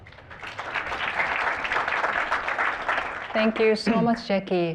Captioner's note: applause